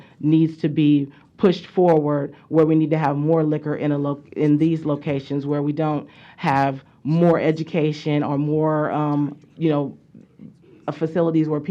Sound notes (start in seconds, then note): none